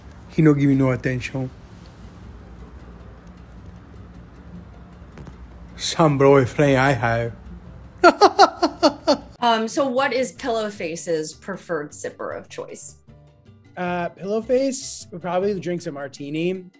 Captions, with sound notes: He no, give me no attention. Some boyfriend I have. (bizarre laughter) So, what is Pillowface's preferred sipper of choice? Pillowface probably drinks a martini.